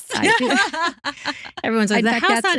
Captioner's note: laughing